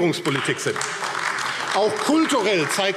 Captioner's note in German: Beifall AfD